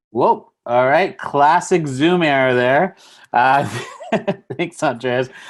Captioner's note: laughs